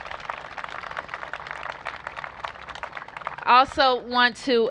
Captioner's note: applause